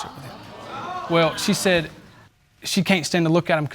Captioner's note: audience exclaiming